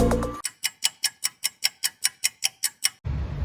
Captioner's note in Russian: тиканье часов